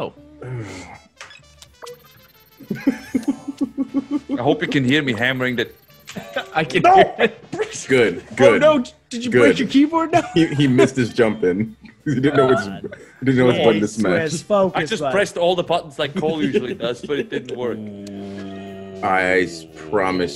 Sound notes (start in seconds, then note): 0.1 laugh; 6.1 laugh